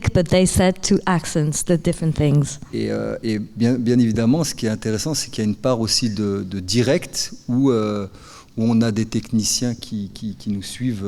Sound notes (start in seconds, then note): 2.8 speaking in French